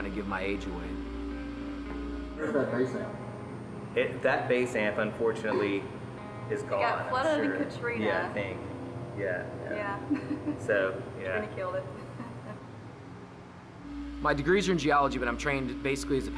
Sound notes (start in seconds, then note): 9.8 laughs